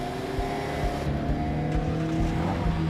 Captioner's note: engine turns over